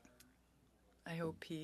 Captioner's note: speaking in French